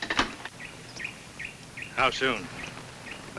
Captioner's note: bird tweets